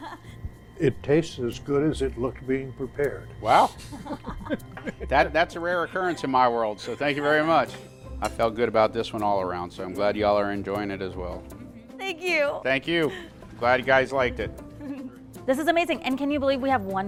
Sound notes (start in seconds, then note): 9.7 laughing